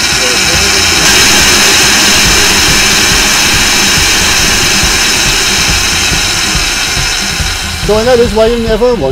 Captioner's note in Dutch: zeer lawaaierige mixer